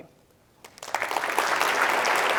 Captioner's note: applause